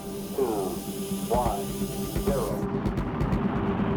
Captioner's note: radio transmission